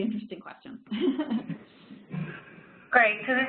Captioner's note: laughs